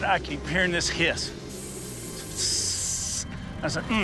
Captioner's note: hisses